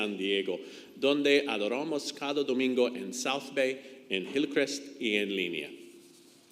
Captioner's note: speaks in foreign language